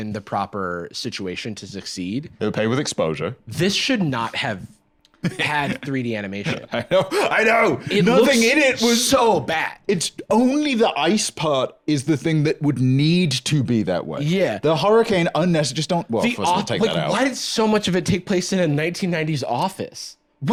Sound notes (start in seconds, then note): 6.4 laughs